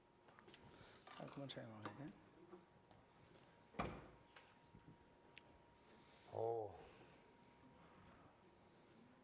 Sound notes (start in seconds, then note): 2.0 non-english speech